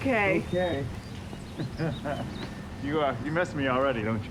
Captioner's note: laughing; laughs